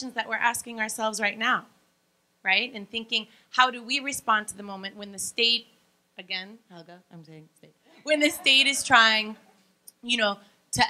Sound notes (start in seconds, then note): 7.9 laughing